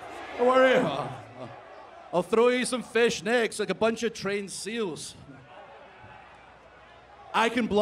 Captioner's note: crowd chanting